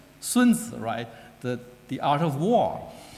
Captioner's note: speaking foreign language